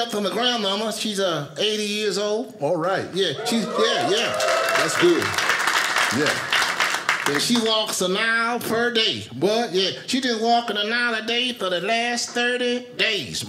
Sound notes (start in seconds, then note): 3.4 audience applauding